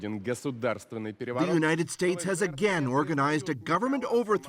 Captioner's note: speaking russian